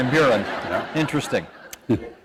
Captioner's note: laughter